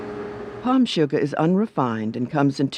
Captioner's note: voiceover